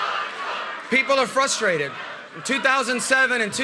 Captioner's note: chanting